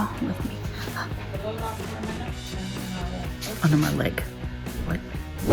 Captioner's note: gasp